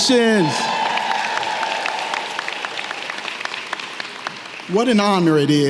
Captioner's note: audience clapping and cheering